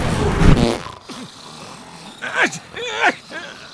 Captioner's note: sneezing bout